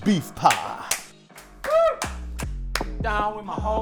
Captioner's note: clapping